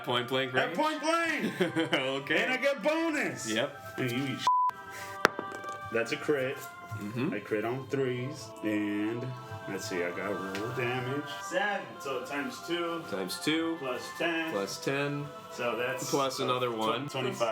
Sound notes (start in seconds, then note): 1.2 giggles